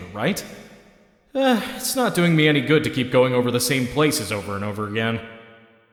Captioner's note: sigh